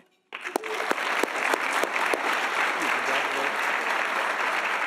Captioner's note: audience applauding